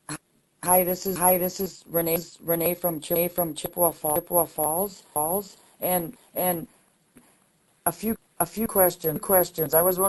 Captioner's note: echoing as she speaks